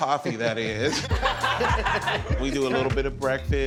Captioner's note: group laughing